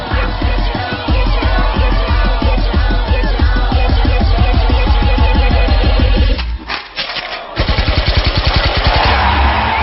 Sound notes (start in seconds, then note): 6.7 guns cocking; 7.5 machine guns firing